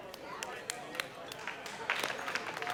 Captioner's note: weak applause